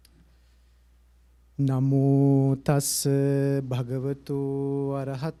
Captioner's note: chanting in pali